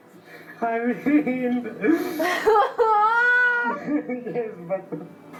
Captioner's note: both crying